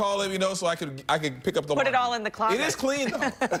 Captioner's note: laughter